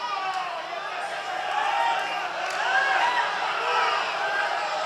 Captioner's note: applause